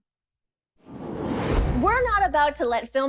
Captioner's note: transition sound